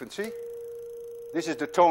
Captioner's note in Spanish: Reproduce tono alto